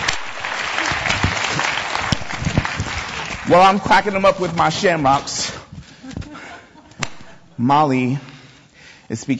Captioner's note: audience applause